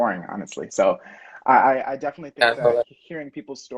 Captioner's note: murmuring